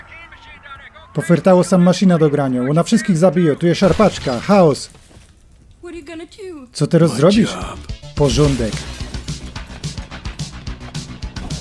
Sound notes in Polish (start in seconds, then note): 3.7 klang kruszōnego plastiku